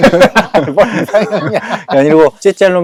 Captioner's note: shyly joking